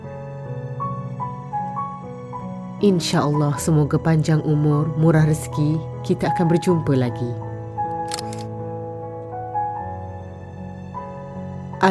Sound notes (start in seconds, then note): 0.0 background music; 7.9 camera snap; 9.5 background music